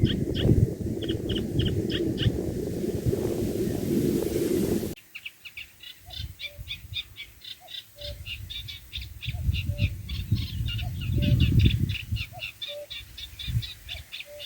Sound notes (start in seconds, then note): 0.3 birds chirping; 5.1 A call of a Cuckoo, and a Reed Warbler